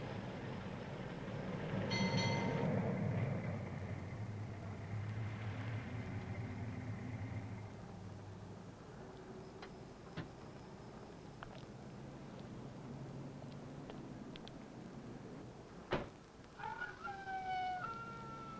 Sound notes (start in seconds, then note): 0.1 bell rings; 14.4 wailing